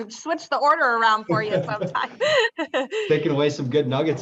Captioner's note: chuckles